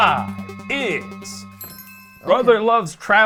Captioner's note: suspenseful music; chimes dinging